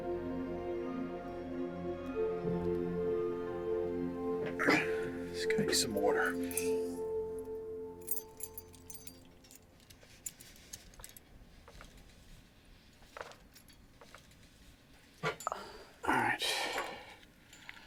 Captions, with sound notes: Let's get you some water. [jangling] All right.